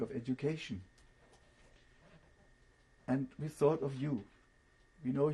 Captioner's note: pauses for 3 seconds